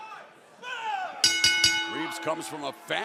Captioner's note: bell ringing